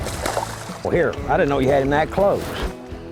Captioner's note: splash